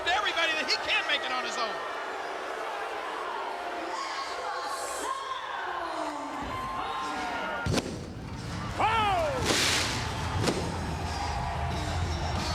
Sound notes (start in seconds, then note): 2.2 audience booing; 9.3 fireworks popping